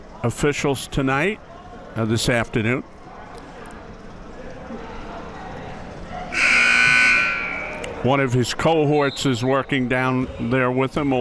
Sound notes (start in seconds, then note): 6.3 buzzer sounding